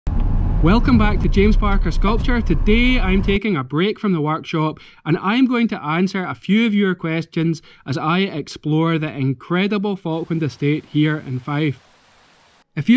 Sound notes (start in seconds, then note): 0.1 car engine roaring